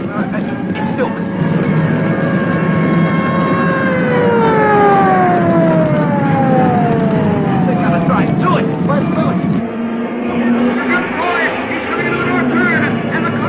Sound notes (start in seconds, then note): 2.3 flames roaring; 2.3 siren wailing